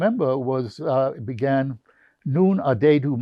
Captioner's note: german